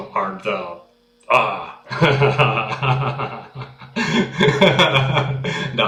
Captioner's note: laughter